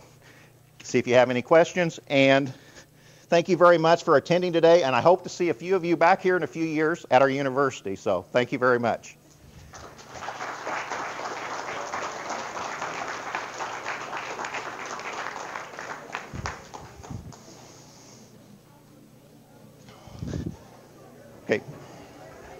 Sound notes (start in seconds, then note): 9.6 audience applause